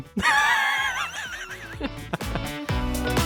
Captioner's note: person laughing; upbeat music